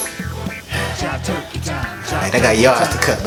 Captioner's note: sighs